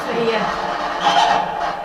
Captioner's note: cackle